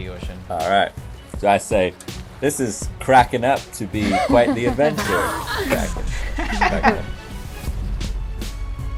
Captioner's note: laughter